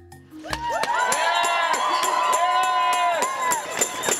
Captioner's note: crowd cheering